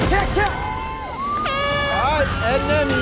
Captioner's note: horn blows